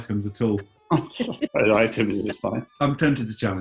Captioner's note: laughing